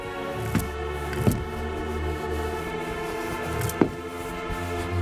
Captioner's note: A Door Creaking; heavy Footsteps